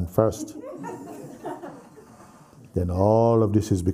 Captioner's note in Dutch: gelach